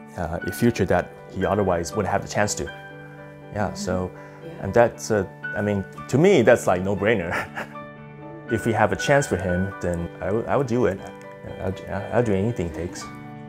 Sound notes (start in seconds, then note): 7.2 chuckles